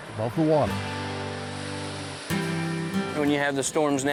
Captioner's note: waves roll; relaxing music continues